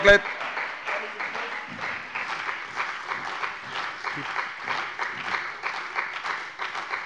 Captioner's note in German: Beifall bei dem BÜNDNIS 90/DIE GRÜNEN und der CDU